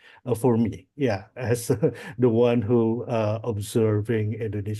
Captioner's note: laughs